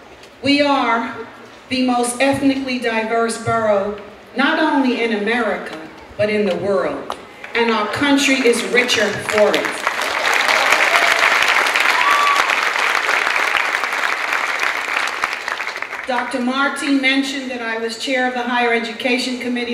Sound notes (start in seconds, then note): 11.7 clapping